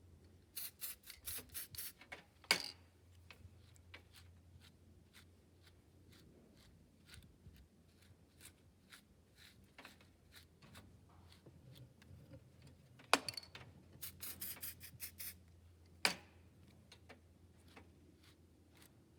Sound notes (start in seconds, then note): 0.6 spray noises; 3.4 brush noises; 14.0 spray noises; 17.5 brush noises